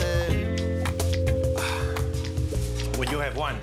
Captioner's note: exhales